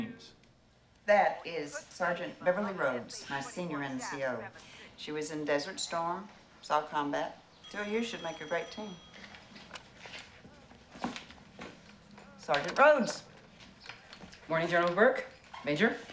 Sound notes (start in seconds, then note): 7.6 phone Ringing